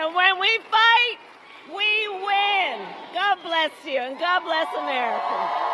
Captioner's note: applause